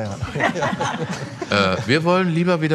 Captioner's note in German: Lachen